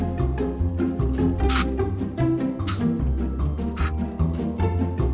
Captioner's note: spraying